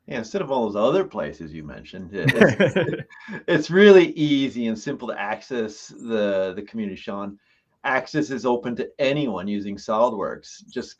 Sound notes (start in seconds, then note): 2.2 both laugh